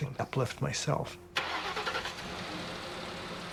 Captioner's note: engine turns over; somber music